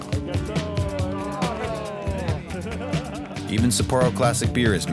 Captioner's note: people laughing